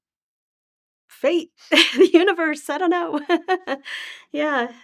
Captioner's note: laughing